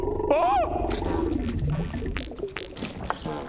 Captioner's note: fart steps